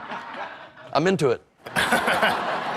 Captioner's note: laughs